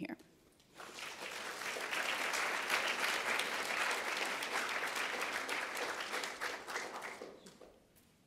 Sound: applauds

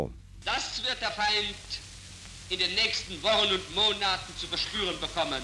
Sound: speaking in foreign language

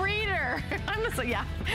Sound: laughter

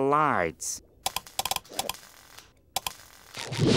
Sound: clicking

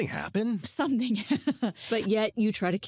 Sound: laughs

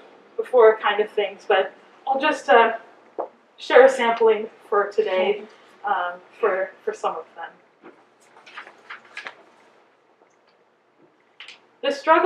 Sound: paper pages turning

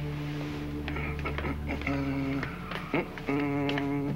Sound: Il fredonne

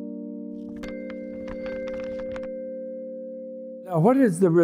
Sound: page turning

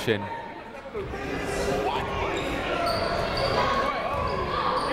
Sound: people shouting in the crowd

